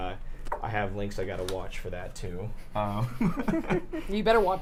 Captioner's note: laughs